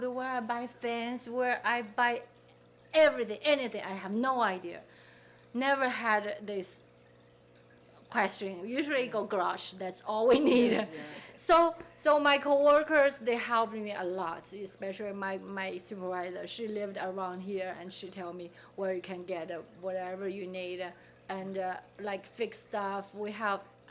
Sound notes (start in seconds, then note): 10.3 laughing